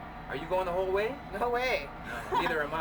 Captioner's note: laughs